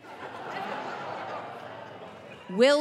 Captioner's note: audience laughing